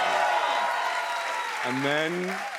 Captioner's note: cheers and applause